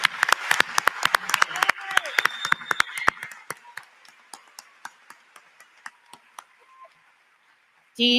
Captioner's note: applause